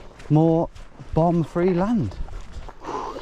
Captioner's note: exhales sharply